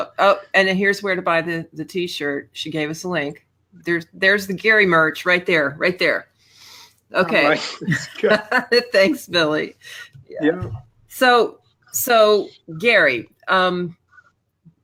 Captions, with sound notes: - And then, here's where to buy the t-shirt, she gave us a link. There's the Gary merch, right there, right there. Okay. (laughs) Thanks, Billie. So, Gary.